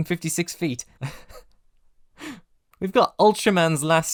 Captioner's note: laughs